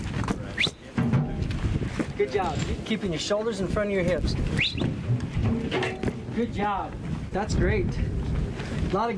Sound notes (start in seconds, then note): 4.5 whistles